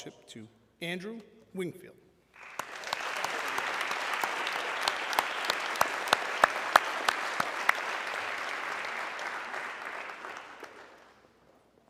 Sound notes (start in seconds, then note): 2.7 audience clapping